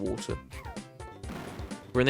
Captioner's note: blammo